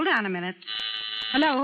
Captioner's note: phone buzzing